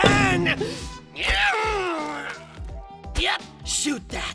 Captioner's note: loud, obvious pained noise